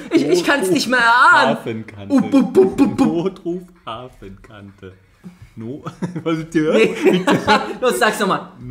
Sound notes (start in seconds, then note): 2.3 weird monkeyish noise